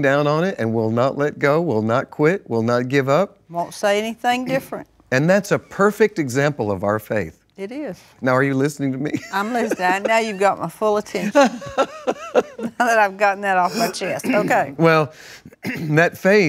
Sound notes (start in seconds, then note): 12.2 laughs